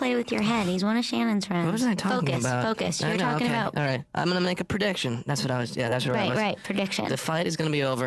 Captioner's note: none